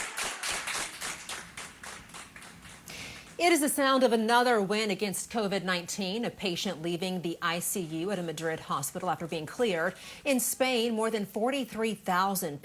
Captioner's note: applause